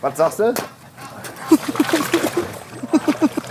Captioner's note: laugh